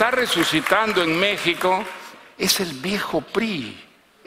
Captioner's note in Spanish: aplausos